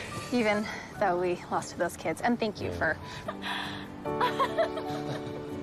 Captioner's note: chuckles